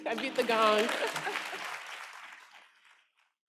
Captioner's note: applause